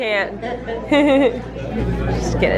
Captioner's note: laughs